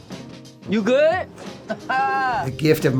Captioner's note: laugh